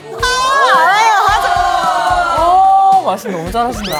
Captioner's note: speaking logically in Korean